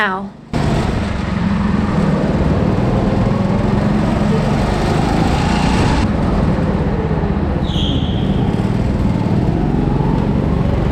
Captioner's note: go-kart engine sound intensifies